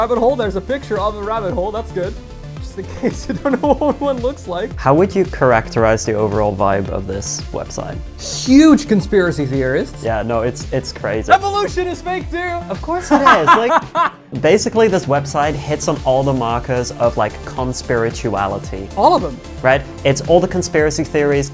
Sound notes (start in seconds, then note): 2.9 laughing; 13.0 laughing